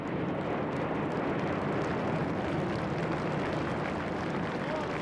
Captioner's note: planes engines rumbling; crowd applauding